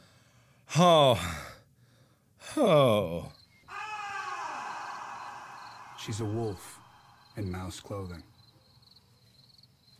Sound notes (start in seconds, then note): 0.8 another groan; 3.7 weird moan/groan